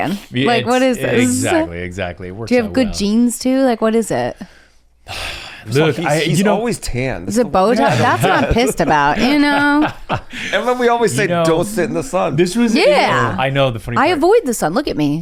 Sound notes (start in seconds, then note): 1.1 laughs; 5.1 sighs; 7.7 laughs